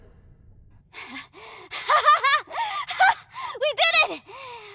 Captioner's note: laughing